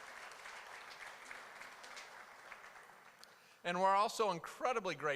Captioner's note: applause